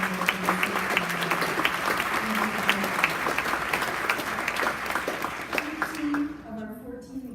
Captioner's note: applause